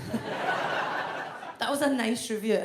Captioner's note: audience laughs